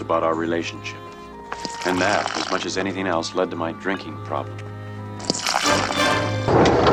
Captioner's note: inner monologue